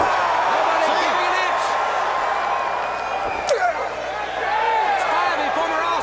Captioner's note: crowd cheering